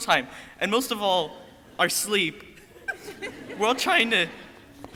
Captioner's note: crowd laughing